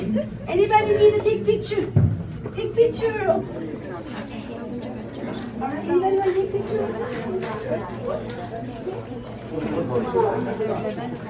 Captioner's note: more Chattering